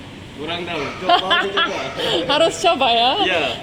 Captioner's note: laughing out loud